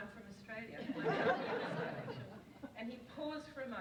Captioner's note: audience laughs